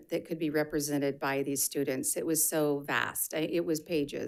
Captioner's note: none